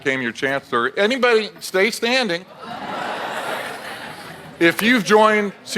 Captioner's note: audience laughs